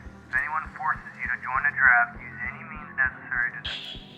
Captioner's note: radio broadcast